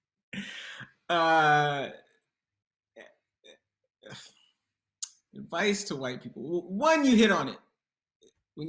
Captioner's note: silence